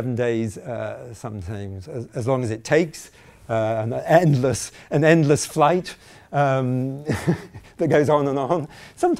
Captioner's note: chuckling